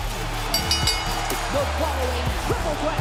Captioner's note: bell rings